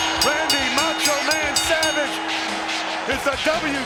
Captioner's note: bell rings